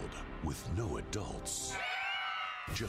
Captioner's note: children cheering